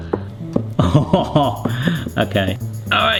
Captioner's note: laughing